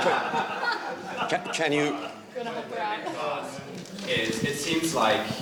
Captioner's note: laughter